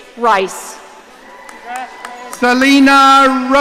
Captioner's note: audience cheering